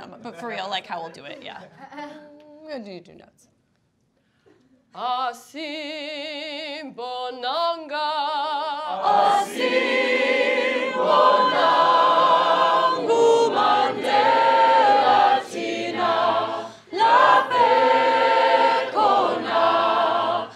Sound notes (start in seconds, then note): 2.7 speaking faintly; 5.1 singing in foreign language